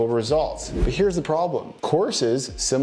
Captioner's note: air whooshing